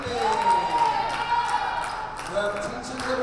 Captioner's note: crowd cheers